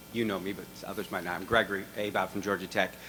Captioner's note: voiceover